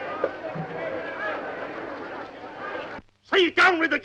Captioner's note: group chattering